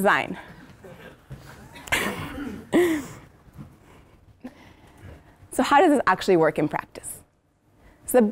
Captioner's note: laugh